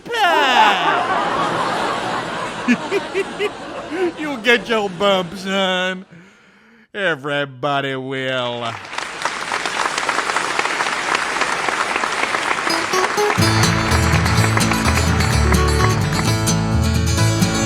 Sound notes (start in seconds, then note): 0.1 laughter; 8.6 applause